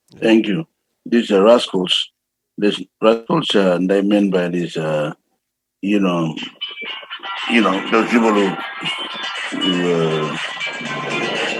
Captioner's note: phone rings